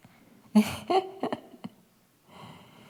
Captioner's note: laughs